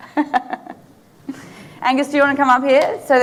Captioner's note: laughing